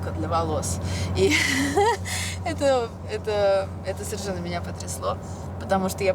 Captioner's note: laughs